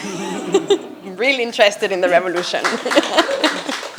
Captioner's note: attendees laughing; attendees applauding; chuckles